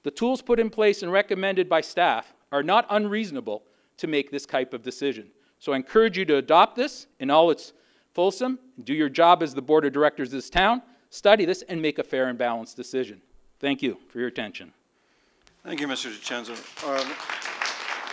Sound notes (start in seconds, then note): 15.6 applause